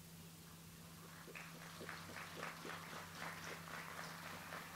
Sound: audience applauds

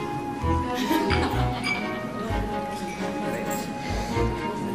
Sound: chattering; Claire laughing

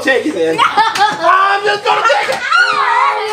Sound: assistant screams

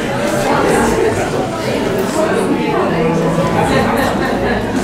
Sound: people chattering excitedly as they leave

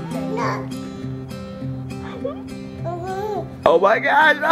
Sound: baby babbling; laughs

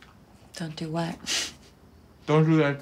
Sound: chuckles

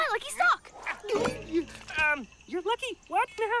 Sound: gulps

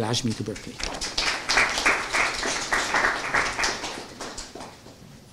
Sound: applause

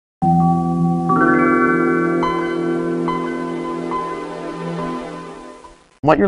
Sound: Windows 95 startup sound

